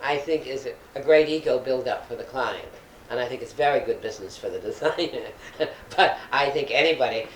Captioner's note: laughs